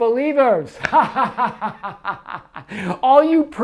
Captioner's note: laughs